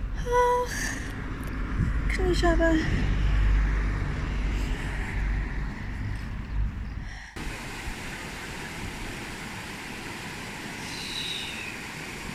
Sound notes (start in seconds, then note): 2.2 traffic; 7.8 river rushing